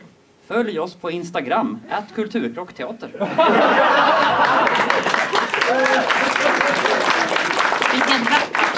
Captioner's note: laughter and applause